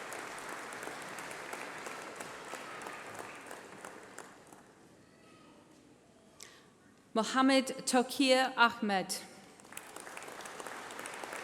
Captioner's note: applause